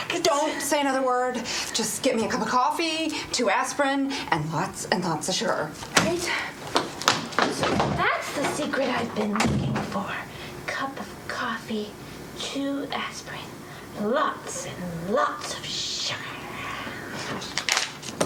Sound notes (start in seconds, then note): none